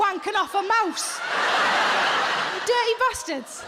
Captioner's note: audience laughs